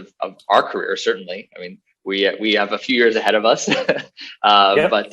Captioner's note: laughs